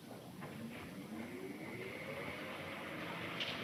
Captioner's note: fan whirring